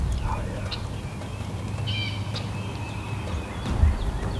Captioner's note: whispering